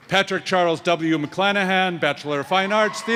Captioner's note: cheers and applause